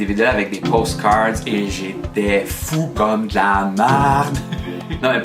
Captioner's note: laughs